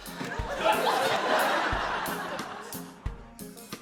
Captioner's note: laughter